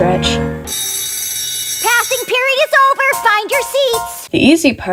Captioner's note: bringggg